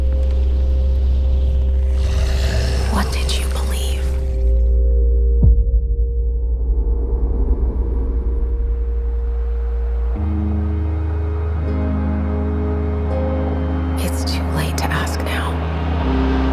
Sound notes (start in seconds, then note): 1.8 inhuman growling; 9.3 slow melancholy music playing